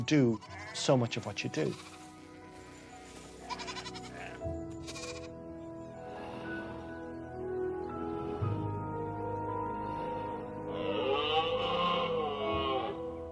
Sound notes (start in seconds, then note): 3.4 bleating; 11.1 trumpeting